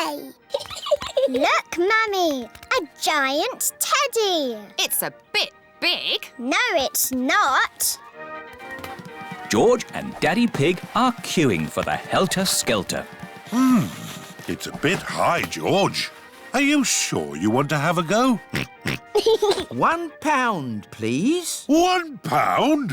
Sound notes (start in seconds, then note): 0.5 giggles; 18.4 oinks and giggles